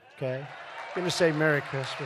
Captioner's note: applause